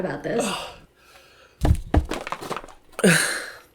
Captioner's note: sighs